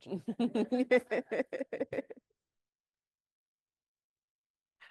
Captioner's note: everyone laughs